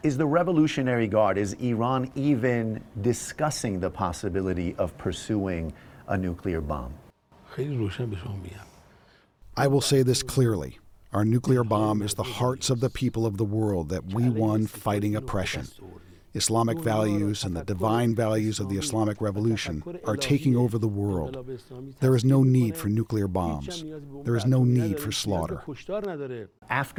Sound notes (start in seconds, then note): 10.2 through translator